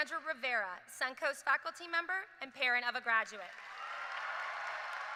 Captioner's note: cheers and applause